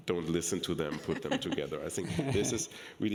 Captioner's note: laughing